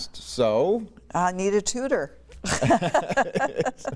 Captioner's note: laughter